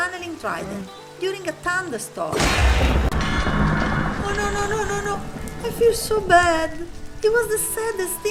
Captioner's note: thunder strike